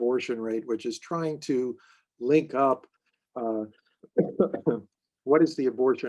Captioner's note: coughing